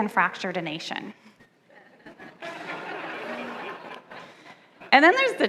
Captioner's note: light laughter from the audience